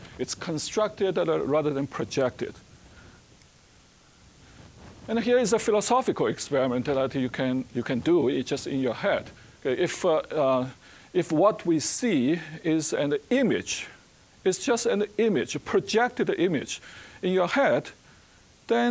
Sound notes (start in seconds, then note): none